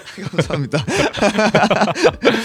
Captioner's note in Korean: 웃음